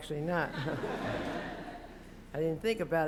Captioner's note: laughter